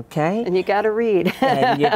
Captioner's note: laughs